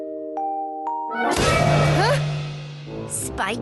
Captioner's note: slam!